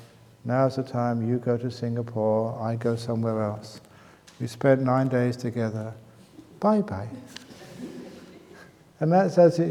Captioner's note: laughs